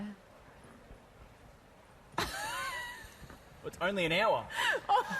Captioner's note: laughter